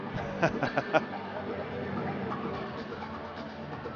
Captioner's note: laughter